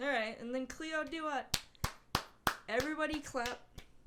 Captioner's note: clapping